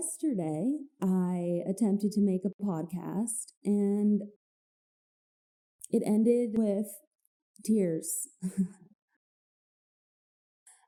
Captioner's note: laughs at self a little bit